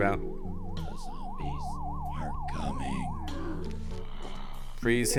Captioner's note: voiceover